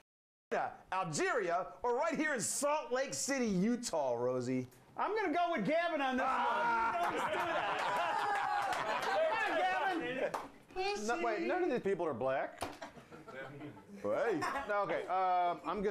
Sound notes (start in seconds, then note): 9.4 laughter